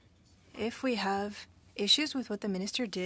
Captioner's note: speaking French